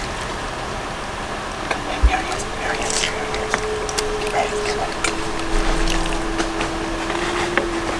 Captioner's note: whispers